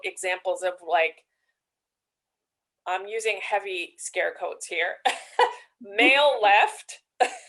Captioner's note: laughs